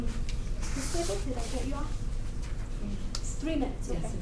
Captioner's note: foreign Language